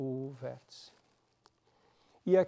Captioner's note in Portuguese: pausa sonora